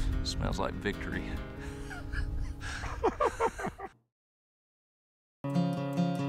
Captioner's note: laughter